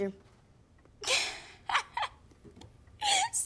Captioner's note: chuckles